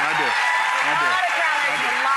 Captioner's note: applause